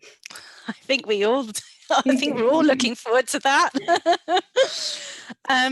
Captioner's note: laugh